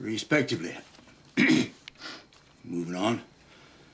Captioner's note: attorney coughs